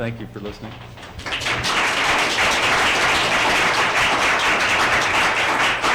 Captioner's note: applause